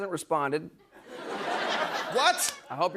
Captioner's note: laughter